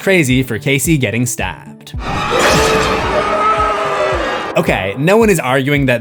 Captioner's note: screams